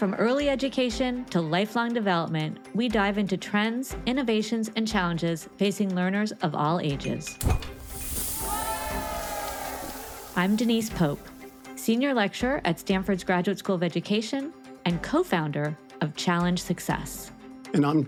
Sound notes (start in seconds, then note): 7.4 object clinking; 7.5 air whoosing; 8.0 students cheering; 9.3 bright music